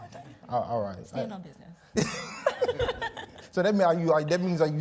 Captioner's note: laugh